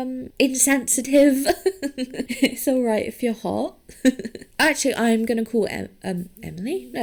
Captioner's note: chuckles